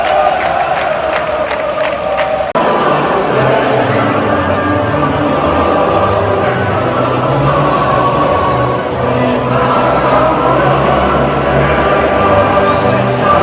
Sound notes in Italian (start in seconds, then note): 2.5 Applauso